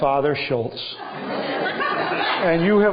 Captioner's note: laughter